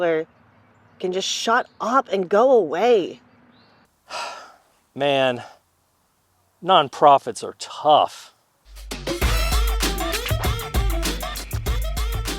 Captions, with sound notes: so Tyler can just shut up and go away? [Sighs] Man. Nonprofits are tough! [Rhythmic music]